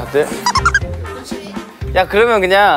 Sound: just laughs

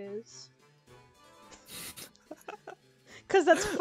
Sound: laughs

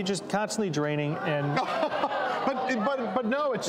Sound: audience gasps

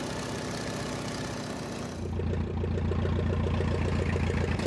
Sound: engine running

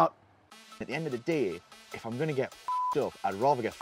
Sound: beep

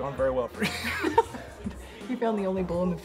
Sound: laughing

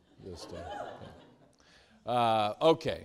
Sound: students laughing

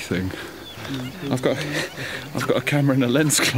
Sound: chuckles

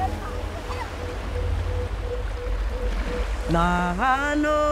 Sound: water sloshing; singing foreign language

